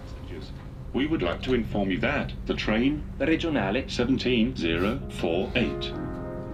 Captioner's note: train announcement